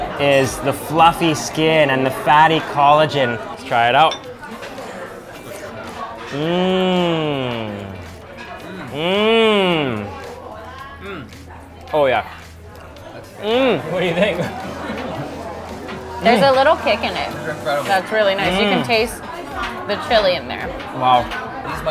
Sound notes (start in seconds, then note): 4.8 background chatter; 6.1 groans in delight; 14.8 background chattering